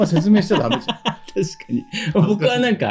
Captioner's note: laughs